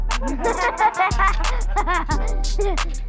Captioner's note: laughs